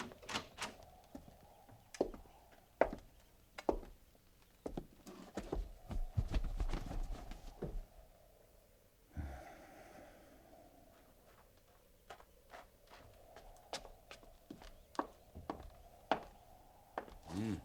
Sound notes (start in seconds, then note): 3.7 footsteps